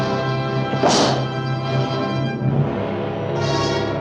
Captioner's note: gate thuds